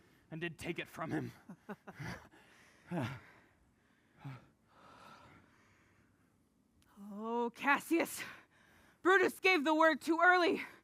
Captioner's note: laughs